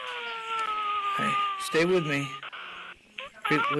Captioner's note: crying